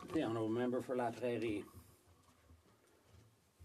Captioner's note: speaking French